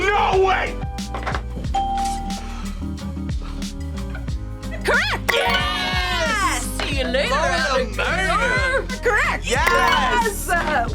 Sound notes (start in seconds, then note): 1.8 bell rings